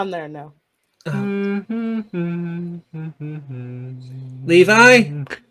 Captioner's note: humming